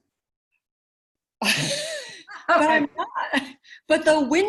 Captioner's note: laughs